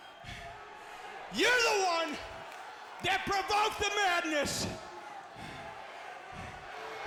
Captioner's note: sighing